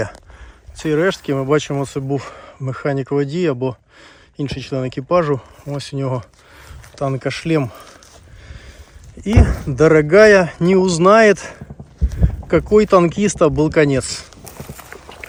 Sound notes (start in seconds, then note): 12.4 reciting Soviet military song